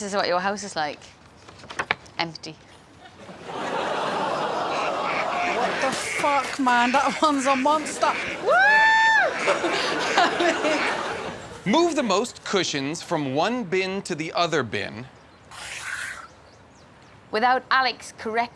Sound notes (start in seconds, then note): 8.2 screams; 10.3 Fatiha laughs